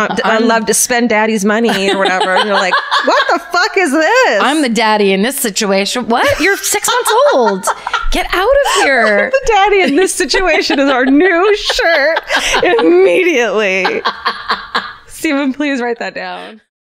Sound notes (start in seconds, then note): 14.3 laughter